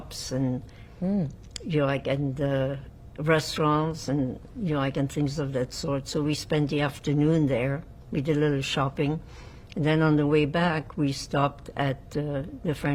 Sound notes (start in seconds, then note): none